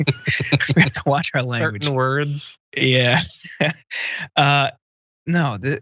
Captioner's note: laugh